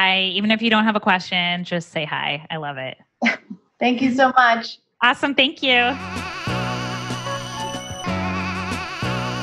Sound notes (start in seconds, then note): 3.2 giggling; 5.7 upbeat music